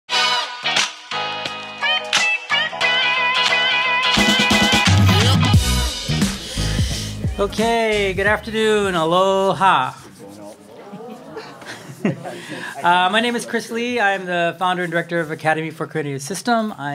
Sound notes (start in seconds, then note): 10.4 crowd